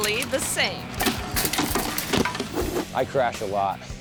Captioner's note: object clatters